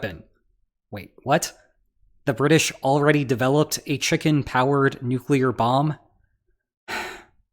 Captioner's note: sigh